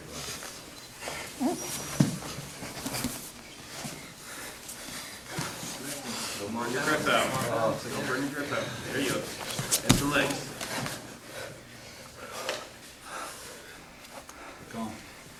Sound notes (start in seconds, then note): 0.1 soft shuffling; 5.8 people talking on the sideline; 10.6 heavy breathing